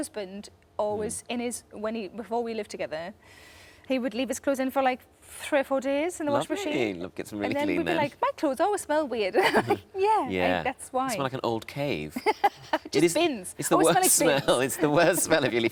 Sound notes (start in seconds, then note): 9.4 laughs; 12.2 laughs